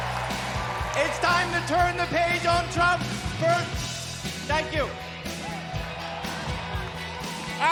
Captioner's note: cheers and applause